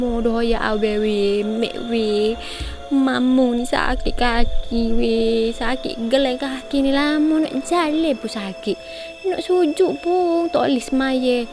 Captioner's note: Dialogue in Kelantan dialect